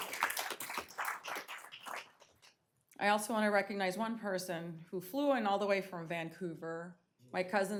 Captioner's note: applause